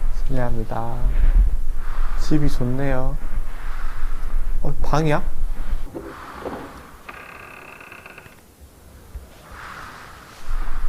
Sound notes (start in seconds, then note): 6.0 screeeeeek